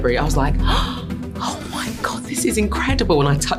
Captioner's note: gasps